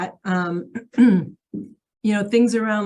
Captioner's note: clears throat